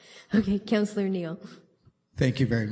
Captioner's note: laughter